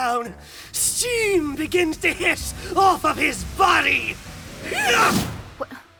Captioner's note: steam begins to hiss off of his body!